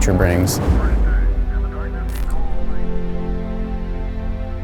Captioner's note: radio transmission